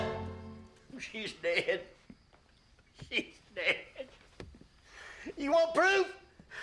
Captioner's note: crying